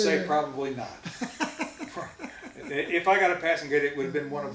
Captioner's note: laughs